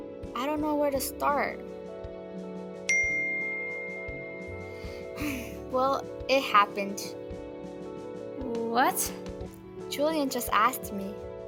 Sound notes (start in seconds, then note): 2.9 electronic ping; 4.6 determined sigh